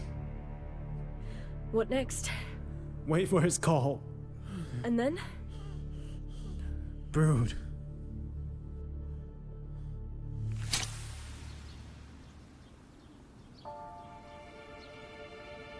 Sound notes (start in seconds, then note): 10.4 light breeze; 10.8 bird calls